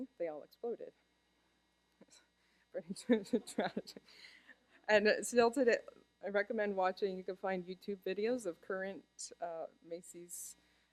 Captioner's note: laughter